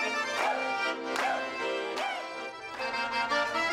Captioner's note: chuckles